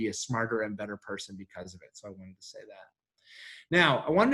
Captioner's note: faintly speaking